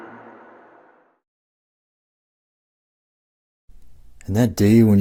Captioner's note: humming sound